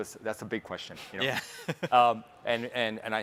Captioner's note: chuckles